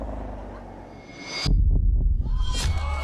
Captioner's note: growls bestially; blade sings, thudding; exclamations, laughter